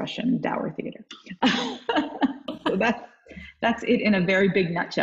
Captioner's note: laughing